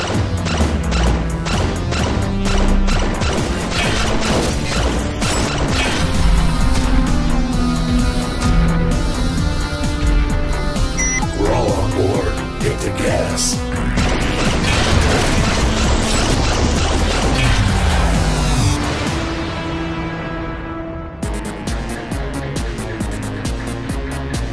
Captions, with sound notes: (lasers zapping) (alarm blaring) We're all on board. Hit the gas. (lasers zapping) (portal buzzing) (upbeat synth music)